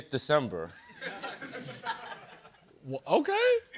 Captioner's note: laughter